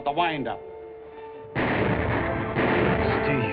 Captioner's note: explosion